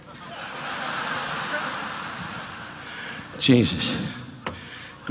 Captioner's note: audience laughing